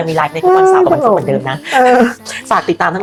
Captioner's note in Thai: เสียงหัวเราะ